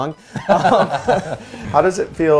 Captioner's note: laughs